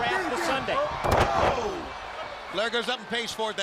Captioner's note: crowd chatter